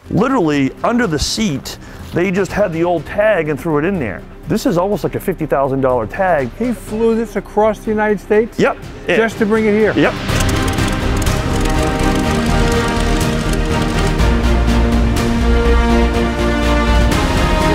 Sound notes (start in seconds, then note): 10.0 propeller sputtering; 10.4 dramatic music